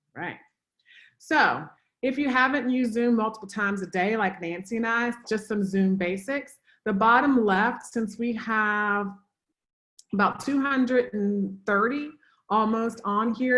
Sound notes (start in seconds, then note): none